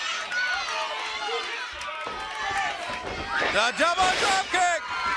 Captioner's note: crowd chatter